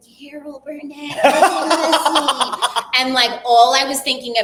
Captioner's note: laughing